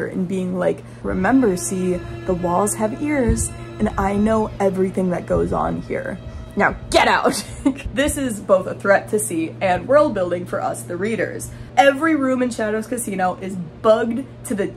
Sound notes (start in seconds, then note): 0.7 tense music; 7.3 laughing